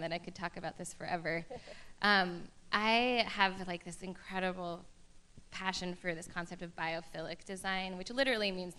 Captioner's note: laughter